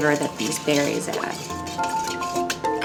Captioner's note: spoon clanging; water burbles